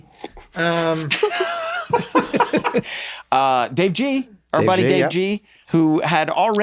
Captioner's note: laughs